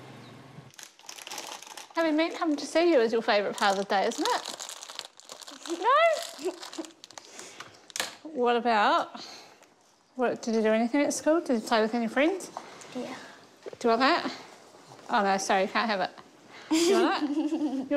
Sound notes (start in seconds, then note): 5.8 chuckles; 16.7 laughs